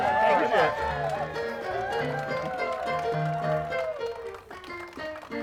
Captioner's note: crowd cheers and applauds; upbeat music